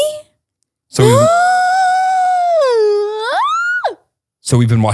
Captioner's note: screams